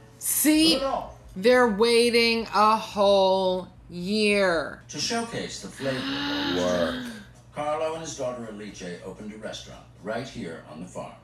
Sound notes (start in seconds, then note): 5.8 gasp